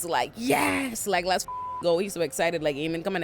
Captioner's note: beep